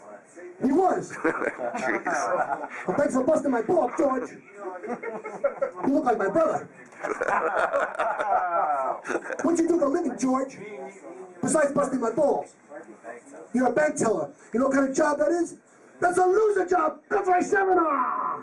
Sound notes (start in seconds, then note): 1.1 laughs; 4.8 laughing; 6.9 laughing